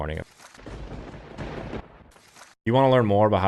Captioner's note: crackles